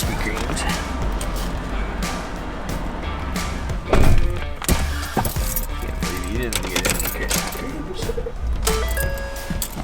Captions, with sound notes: Krispy Kreme's. (car door shuts) (keys jingle)